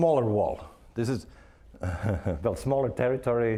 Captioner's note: chuckling